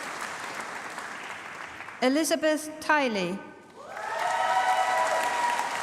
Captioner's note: applause